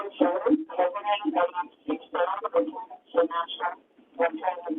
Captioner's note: Static